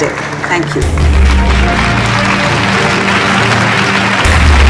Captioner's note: All clapping